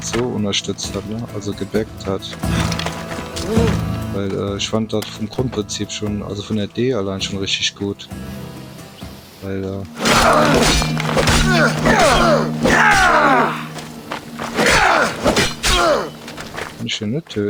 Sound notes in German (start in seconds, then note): 13.2 stöhnen; 14.8 schreien